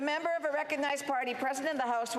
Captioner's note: speaking French